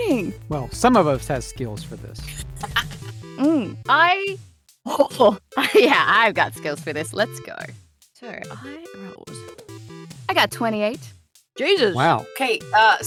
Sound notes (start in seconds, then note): 2.2 chuckles; 5.2 chuckles